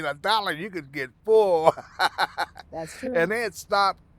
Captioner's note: laughing